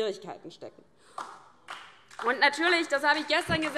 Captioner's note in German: Beifall DIE LINKE